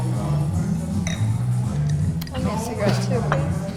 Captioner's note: coughing; glass clinks